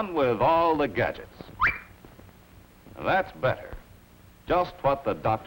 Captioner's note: whistle